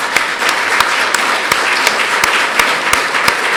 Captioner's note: applause